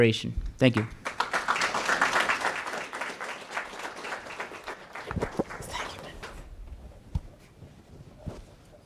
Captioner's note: applause